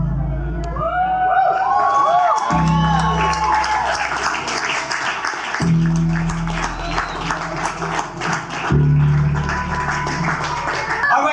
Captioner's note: crowd cheering